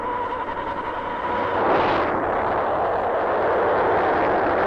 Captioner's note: machinery whirring; rocket rumbling